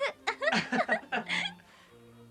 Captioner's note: Kitao and Kurita laugh